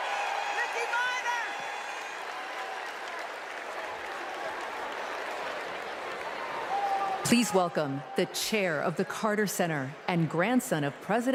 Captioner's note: cheers and applause